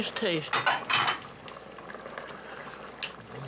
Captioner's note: pot simmering